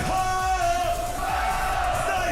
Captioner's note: crowd